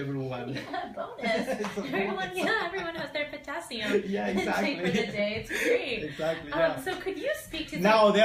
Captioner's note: laughter